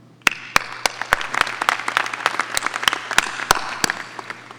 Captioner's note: audience applauding